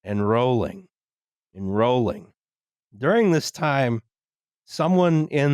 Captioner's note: none